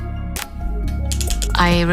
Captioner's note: quiet clicking